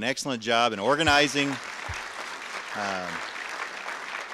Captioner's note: audience applause